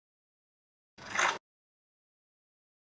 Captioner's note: click